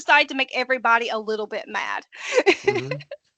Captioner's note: laughing